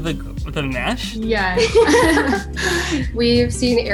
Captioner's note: laughing